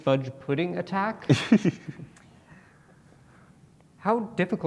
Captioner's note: laughs